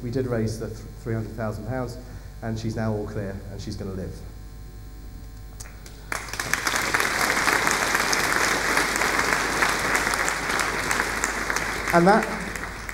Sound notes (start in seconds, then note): 5.6 applause